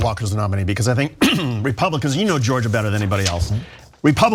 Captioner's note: cough